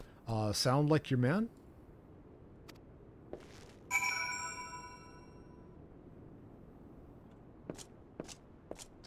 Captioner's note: bell rings